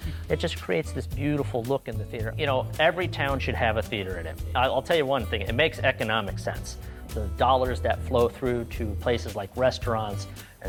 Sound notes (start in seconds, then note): none